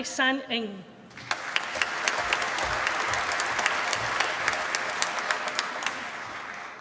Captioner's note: applause